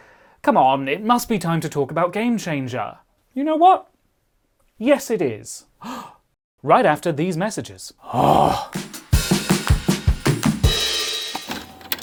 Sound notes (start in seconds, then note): 5.8 gasp; 8.0 groan